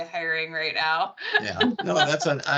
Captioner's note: laughing